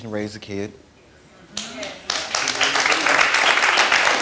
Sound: audience applauds

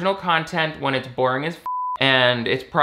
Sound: beep

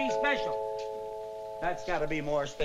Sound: doorbell rings

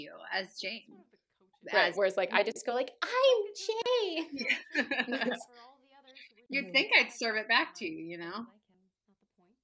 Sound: girly voice

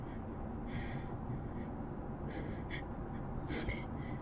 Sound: breathing

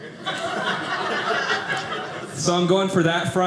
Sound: audience laughing

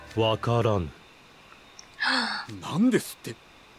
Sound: gasp

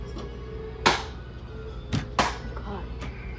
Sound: smack

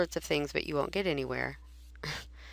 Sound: chuckles

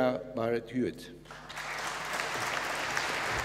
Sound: applause

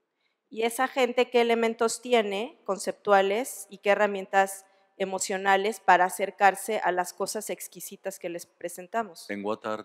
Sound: speaking spanish

